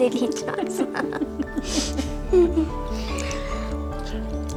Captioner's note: laughing